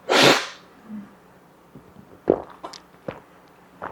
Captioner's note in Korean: 콧방귀